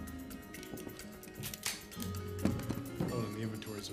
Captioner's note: gun clicking